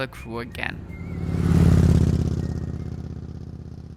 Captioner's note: motorbike roaring